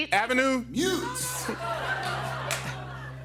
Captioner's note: laughter